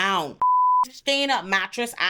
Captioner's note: beep